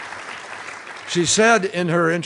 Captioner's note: applause